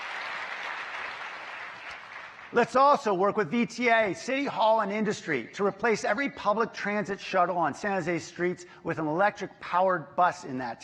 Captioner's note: applause